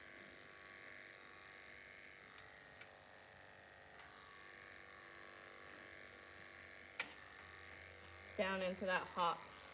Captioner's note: buzzing noises